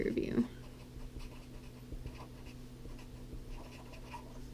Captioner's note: pen scratching